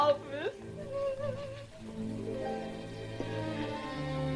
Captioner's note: sobs